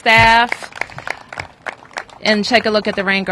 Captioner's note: applause